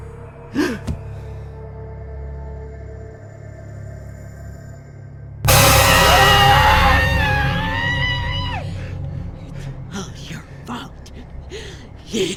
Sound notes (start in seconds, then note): 0.5 gasps; 5.4 dramatic music; 5.9 woman screaming; 6.4 man shouting